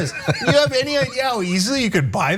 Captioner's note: laugh